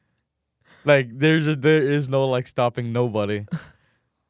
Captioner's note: laughs; laughs